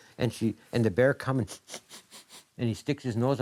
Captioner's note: sniffing